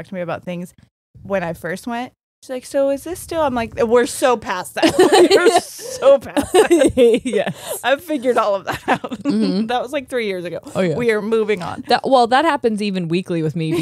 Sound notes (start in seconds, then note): 4.8 laughing; 4.8 laughs